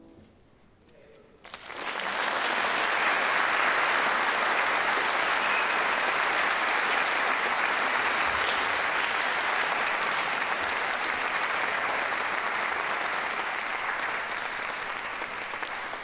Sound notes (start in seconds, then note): 1.4 applause